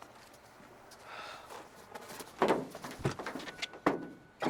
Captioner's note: Ozz sighs